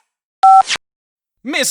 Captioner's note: beep